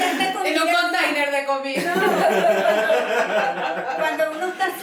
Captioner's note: laughs